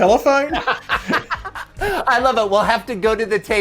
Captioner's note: both laughing